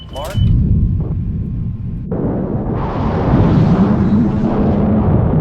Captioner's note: explosion rumbles